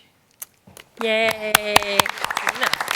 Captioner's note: applause